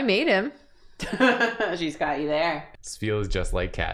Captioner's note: laughing